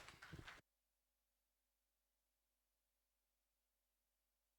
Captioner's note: clapping muted